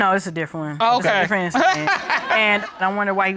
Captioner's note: laughs